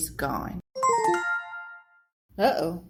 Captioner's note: notification bell